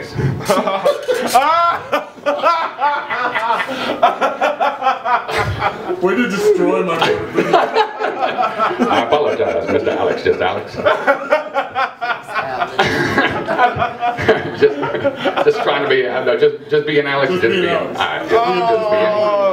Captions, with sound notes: [Laughter] Way to destroy my Morgan Freeman I apologize, Mr. Alex Just Alex. [Laughter] Just Trying to be Ale- no Just, Just being Alex Just Being Alex Alright.